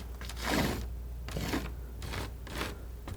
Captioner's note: scratching